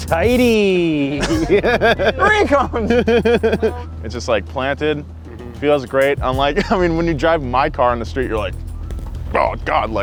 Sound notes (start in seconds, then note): 1.2 laughter